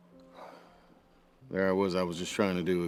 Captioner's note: sighing